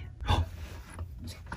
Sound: gasps

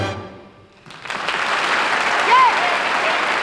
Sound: audience clapping

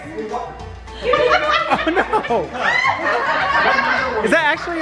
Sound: laughing

